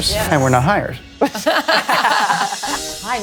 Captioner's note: all laughing